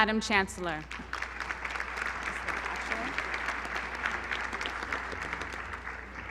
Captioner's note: applause